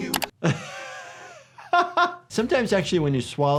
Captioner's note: doctor laughs